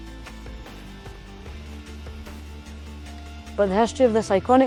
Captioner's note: footstep thuds